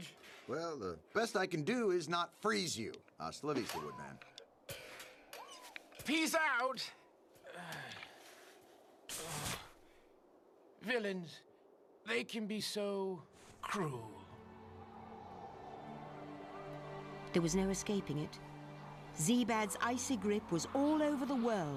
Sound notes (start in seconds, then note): 7.4 groans; 14.5 wind howling